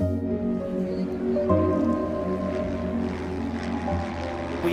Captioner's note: airplanes buzzing